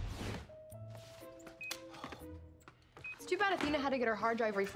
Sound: beeping

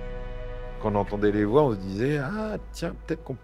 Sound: in french

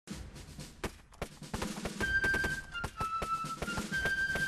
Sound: music and gunfire

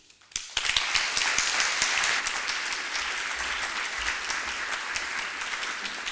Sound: applause

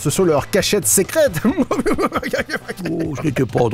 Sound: laughs

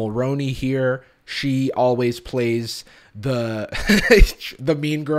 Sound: laughs

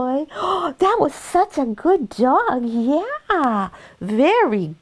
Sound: gasps

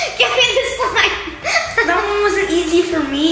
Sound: laughs

